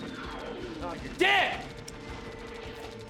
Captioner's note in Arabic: المؤثرات الصوتية للعبة